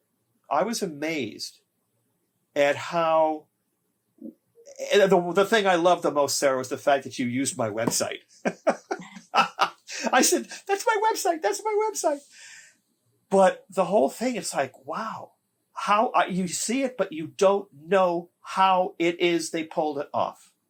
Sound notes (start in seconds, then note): 8.4 laughing